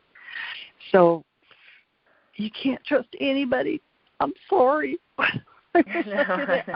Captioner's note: laughs